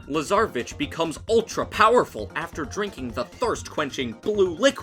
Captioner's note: none